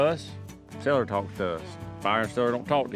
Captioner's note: none